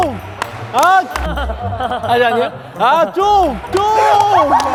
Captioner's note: laughing